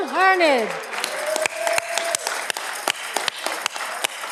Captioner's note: audience clapping